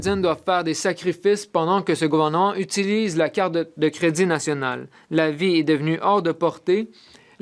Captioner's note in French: voix de l'interprète